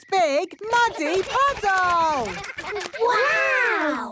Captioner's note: splashing